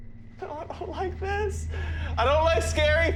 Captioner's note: whimpers